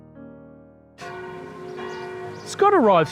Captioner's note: church bells ringing